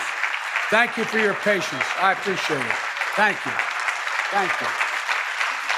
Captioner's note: applause